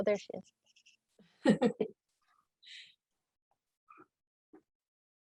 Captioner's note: laughs